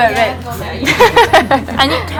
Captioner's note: laughs